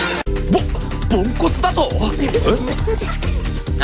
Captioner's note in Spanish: riendo